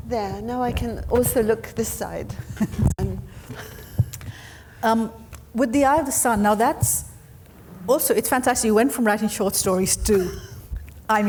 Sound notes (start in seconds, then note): 3.2 chuckling